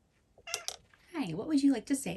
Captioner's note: meows